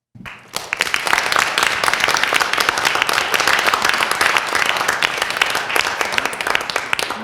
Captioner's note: applause